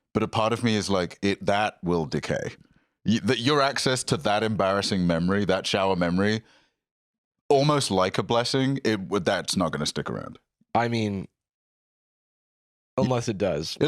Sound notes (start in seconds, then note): none